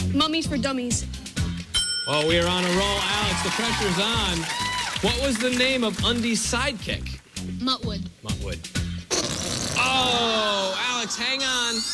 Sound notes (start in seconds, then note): 9.0 farting noise